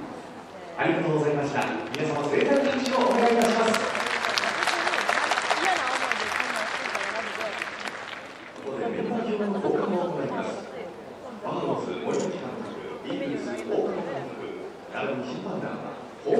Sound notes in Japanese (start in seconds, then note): 4.1 拍手